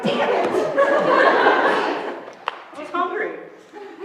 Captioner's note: laughter